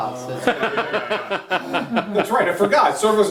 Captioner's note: laughter